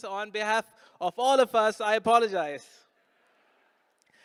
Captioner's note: none